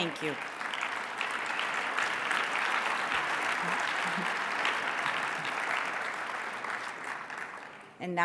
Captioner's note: applause